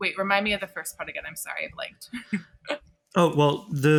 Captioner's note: chuckling